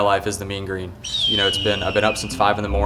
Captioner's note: eagle screeching